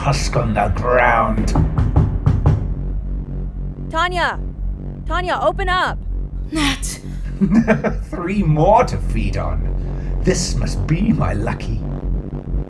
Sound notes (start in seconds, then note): 6.4 breathlessly; 6.8 chuckling